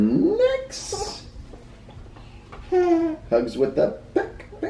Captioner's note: giggling